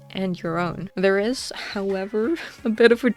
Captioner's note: laughs